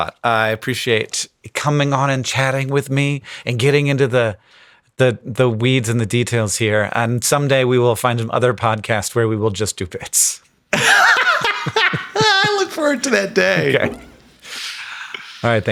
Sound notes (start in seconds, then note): 10.7 Sam and Hank laughing